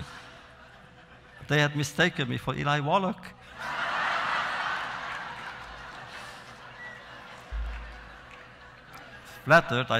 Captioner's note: laughter; laughter